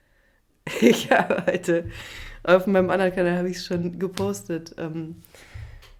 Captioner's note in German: gelächter